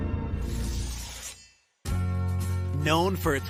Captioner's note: knife slicing; gentle music